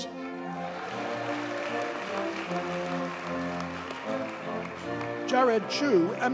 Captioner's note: audience cheers and applauds